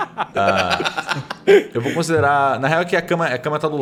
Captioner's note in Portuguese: Risadas